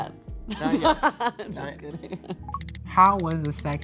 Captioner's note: laughing